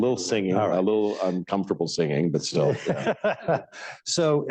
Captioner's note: laughter